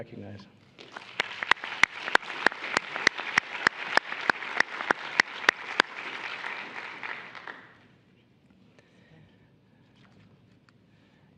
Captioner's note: applause